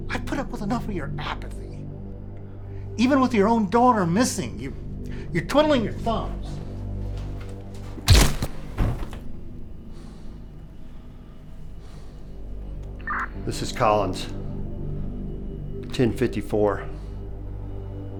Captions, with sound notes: I put up with enough of your apathy. Even with your own daughter missing, you're twiddling your thumbs. (truncheon thumps) (body thuds) - This is Collins 1054.